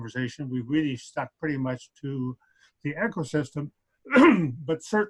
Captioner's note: clears throat